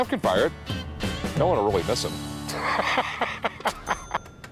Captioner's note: laughs